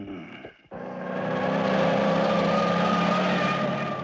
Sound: Jeep Approaching

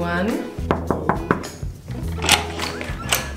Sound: knocking

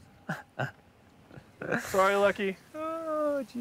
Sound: Chester chuckles

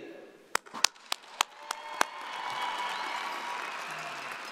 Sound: audience applauding

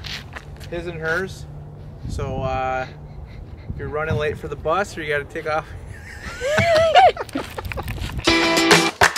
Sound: laughter

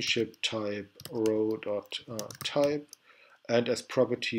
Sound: typing

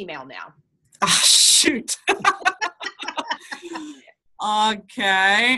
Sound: laughing

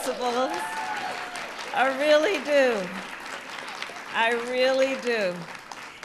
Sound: applause

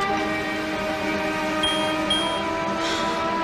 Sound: answering machine beeps

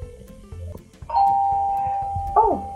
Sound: ring bells

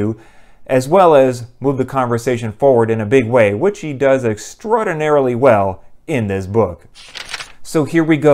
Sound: page turn

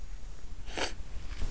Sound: he sniffles

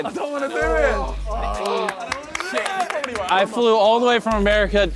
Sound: contestant clapping

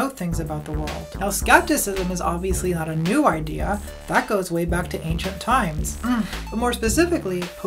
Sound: mmm

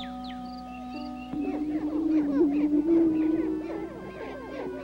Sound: prairie chicken sounds

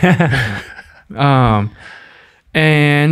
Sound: all laugh

